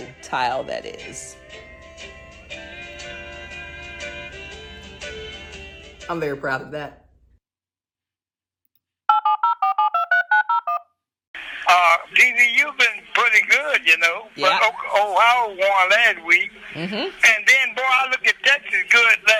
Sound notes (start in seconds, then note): 1.8 country music plays; 9.1 phone digits being pressed